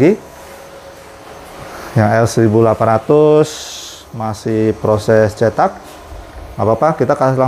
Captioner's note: printer machine noise